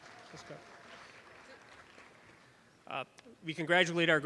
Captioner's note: audience applause